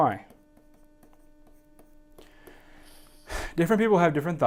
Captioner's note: marker scratching